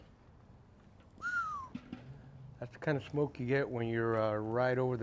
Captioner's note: whistles